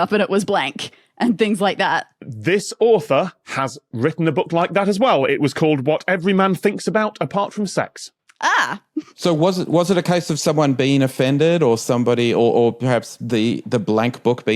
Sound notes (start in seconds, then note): none